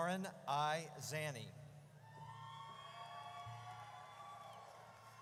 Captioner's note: audience cheers